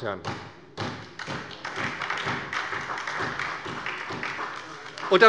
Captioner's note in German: Beifall bei der SPD